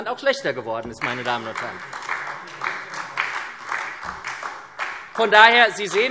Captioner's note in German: Beifall SPD